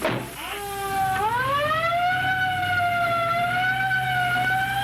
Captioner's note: ambulance siren wails